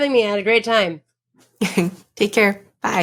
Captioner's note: chuckles